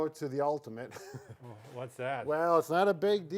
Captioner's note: both chuckling